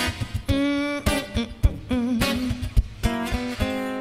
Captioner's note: humming